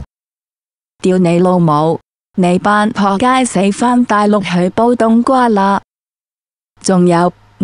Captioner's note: Mandarin